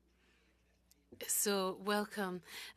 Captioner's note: speaking french